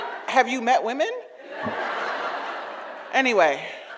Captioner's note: audience laughs